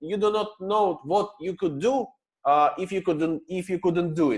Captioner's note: none